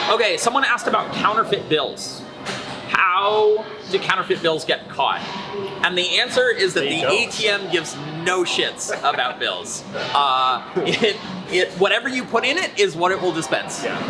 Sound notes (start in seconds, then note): 9.1 laughter